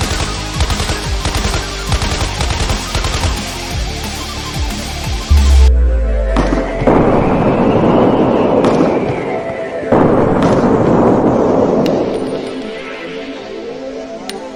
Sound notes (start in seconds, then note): 0.3 gun firing; 5.3 explosions booming; 6.2 guns firing; 12.1 soft music